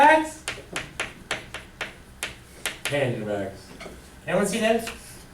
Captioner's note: voiceover